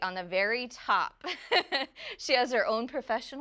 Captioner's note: laughs